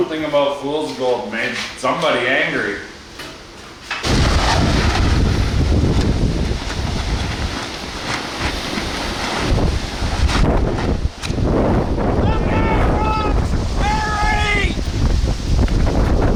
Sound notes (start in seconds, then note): 4.6 wind blowing; 13.8 Boss screaming